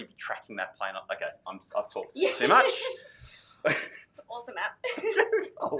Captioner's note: laughs